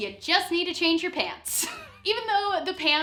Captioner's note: laughing